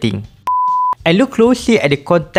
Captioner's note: beep